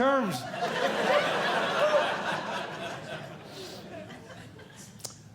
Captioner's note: audience Laughing